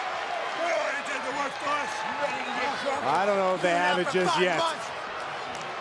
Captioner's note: applause